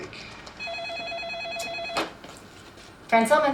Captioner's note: phone ringing